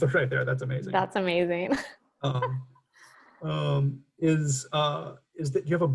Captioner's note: chuckles